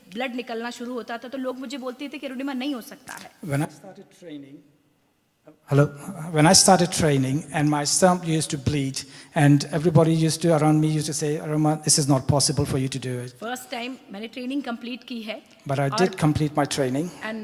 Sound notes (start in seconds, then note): 3.9 microphone fades; 13.2 speaks foreign language; 17.2 speaks foreign language